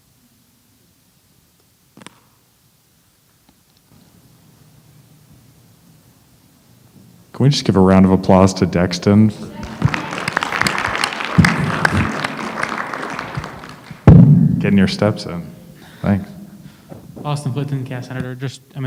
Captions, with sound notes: Can we just give round of applause to Dexter. [APPLAUSE] Can your stepson. Thanks. Austin Fulerton, cast Senator.